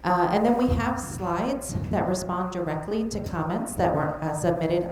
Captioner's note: none